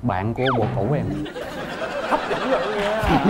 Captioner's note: laughing